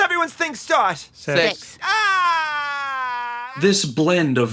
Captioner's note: Linda cries out in emotional agony